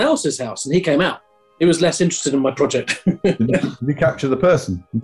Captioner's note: laughing